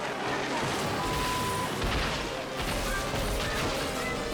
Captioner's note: snowmobile crashing